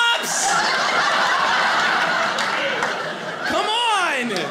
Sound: audience laughing

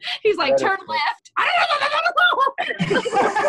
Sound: speaking Korean; laughter

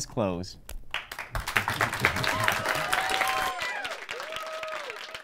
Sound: audience applauding

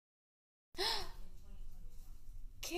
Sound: gasps

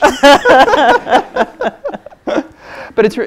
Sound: both laughs

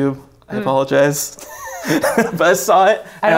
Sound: laughs

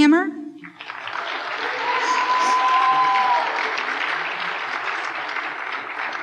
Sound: applause and cheering

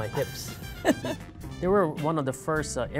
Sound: laughs

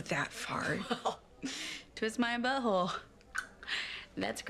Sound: clicks tongue

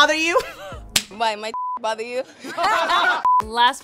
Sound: beeb

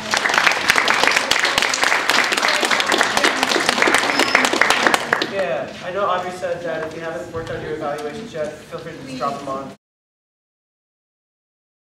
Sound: applause

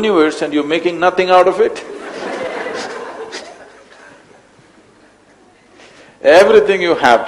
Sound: laughter

